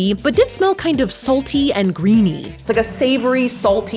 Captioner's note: none